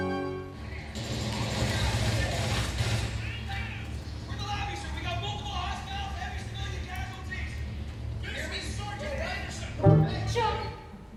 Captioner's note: video game sounds